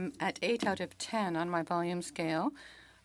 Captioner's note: speaking French